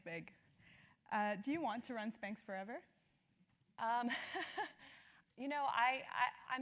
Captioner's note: laugh